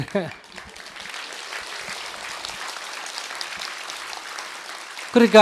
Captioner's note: audience Laughter and Applause